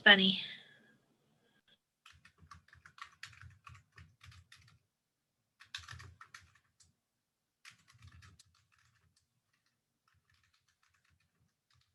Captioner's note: sound of typing